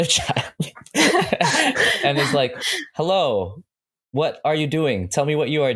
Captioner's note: laughter